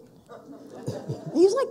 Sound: people laughing

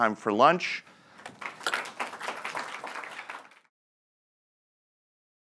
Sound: crowd clapping

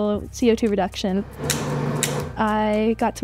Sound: switches click

